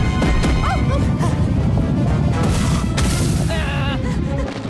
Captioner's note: screams